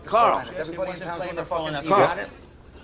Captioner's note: chefs arguing